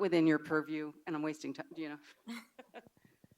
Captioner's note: laughs